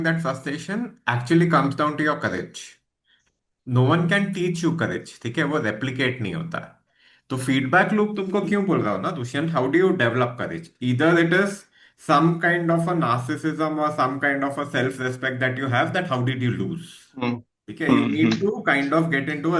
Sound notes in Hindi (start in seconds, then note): 17.9 गला साफ़ करने की आवाज़